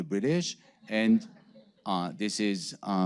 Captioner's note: audience laughing